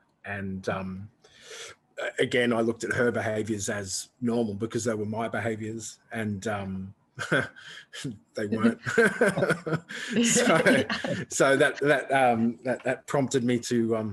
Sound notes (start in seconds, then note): 8.3 chuckles; 8.4 laughing together